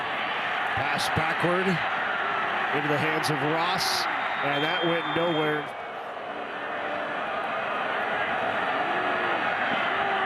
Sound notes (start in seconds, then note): 4.2 referee blows whistle